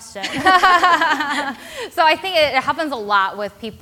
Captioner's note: laughs